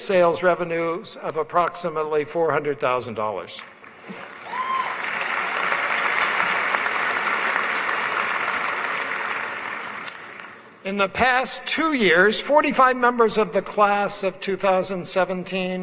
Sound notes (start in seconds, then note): 3.6 applause